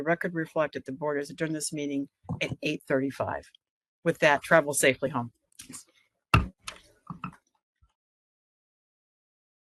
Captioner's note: gavel bang